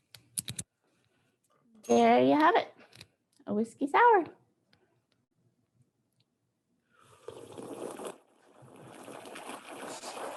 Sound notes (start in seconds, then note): 7.5 lapping